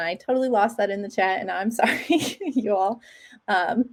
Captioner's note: chuckle